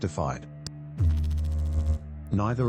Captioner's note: electrical noise